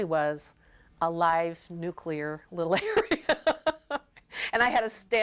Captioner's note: laughing